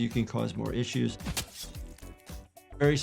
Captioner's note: knife slashes